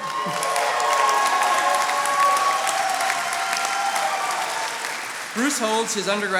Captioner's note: attendees cheering and applauding